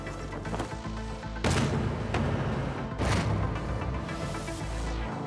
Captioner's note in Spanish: ruido al caer